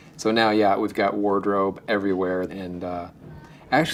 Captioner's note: none